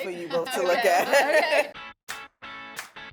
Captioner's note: all laughing; upbeat music